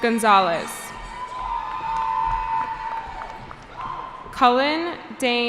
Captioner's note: cheering